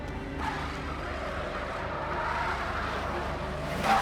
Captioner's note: tires screech